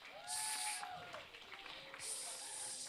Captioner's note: applause